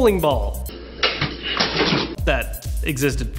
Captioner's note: crashing